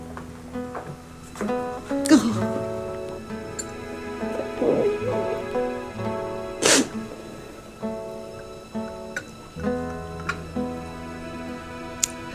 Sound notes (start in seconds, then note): 6.6 dramatic music continues; 6.6 sobs